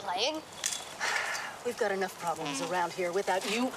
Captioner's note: sighing